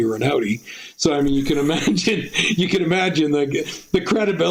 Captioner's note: laughing